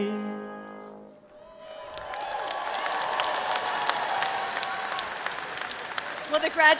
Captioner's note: audience applauding and cheering